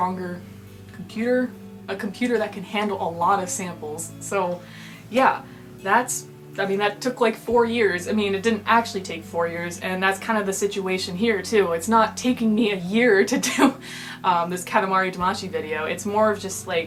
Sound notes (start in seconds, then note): none